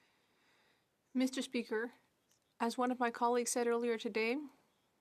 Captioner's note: speaking French